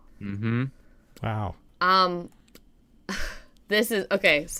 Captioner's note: laughing